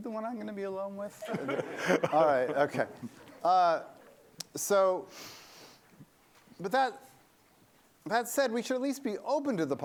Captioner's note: laughter